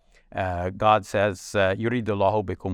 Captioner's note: speaks verse in Arabic